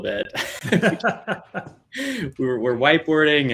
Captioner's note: all laughing